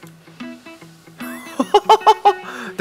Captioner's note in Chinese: 笑聲